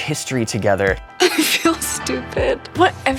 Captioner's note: chuckles